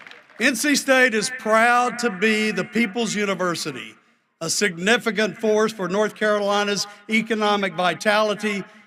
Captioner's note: cheering and applause